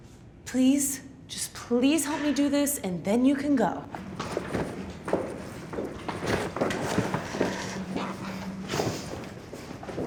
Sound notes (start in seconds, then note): 5.0 footsteps thunking